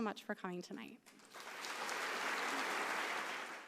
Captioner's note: audience applauding